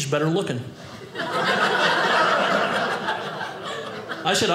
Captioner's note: audience laughing